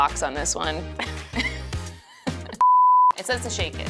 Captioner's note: both laughing